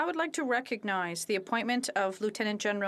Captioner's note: speaking French